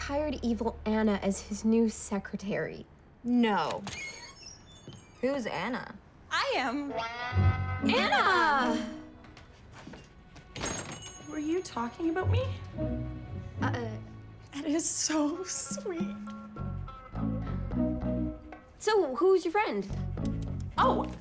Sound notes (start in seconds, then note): 3.6 door creaks open; 10.5 door jingles; 14.0 stammers